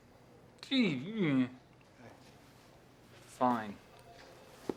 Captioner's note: angry grunting